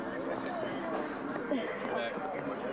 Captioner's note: chatter; sniffles